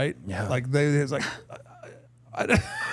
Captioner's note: chuckling